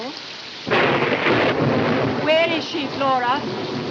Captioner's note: thunderclap